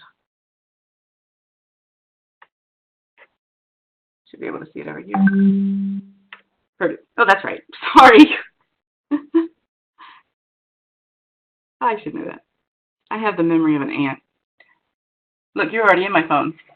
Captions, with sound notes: Should be able to see it over here. Perdue. Oh, that's right. Sorry. [LAUGHS] I should know that. I have the memory of an ant. Look, you're already in my phone.